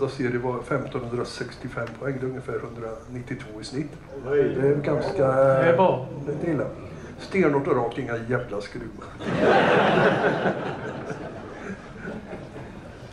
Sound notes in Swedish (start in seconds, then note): 9.2 Skratt